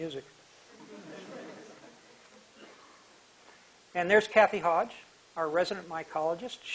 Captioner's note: laughter/end of music